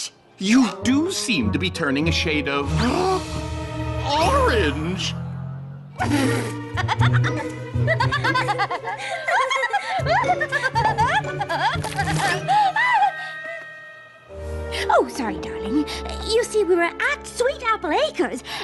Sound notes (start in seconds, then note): 3.9 gasp; 5.9 uncontrolled giggling